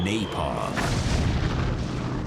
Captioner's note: explosion